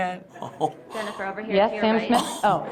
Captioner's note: chuckles